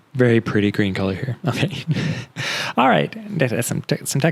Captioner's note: laughs